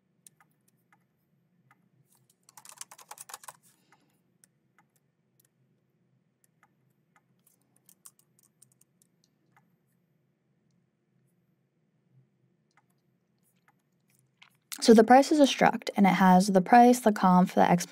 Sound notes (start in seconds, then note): 2.5 keyboard clacking; 10.5 keyboard clacking continues